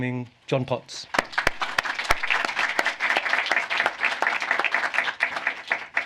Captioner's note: applause